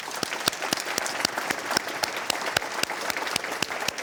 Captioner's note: audience clapping